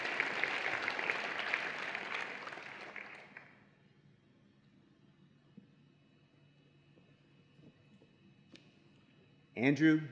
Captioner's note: applause and Cheering